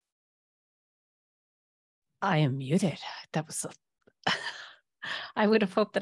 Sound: laughter

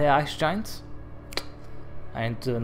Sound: click

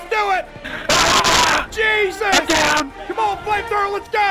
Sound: inhales then yells

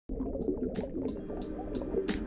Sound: water bubbling; relaxing hip hop beat

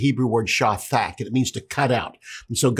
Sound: speaking Hebrew

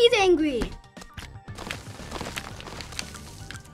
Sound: game Squish Noises

